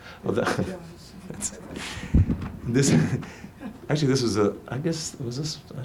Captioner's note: laughs; laughing